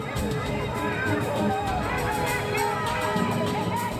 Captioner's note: shouting